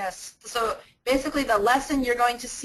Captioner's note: voiceover